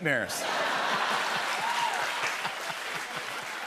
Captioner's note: laughter